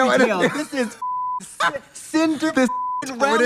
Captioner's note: beep